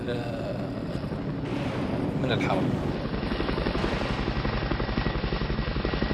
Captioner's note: speaking in Arabic